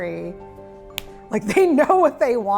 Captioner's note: fist smacks